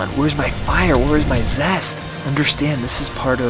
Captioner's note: fire crackling